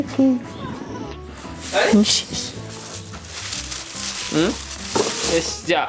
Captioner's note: laughs